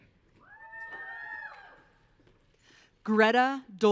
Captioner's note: audience cheering